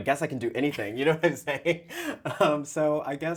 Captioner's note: laughs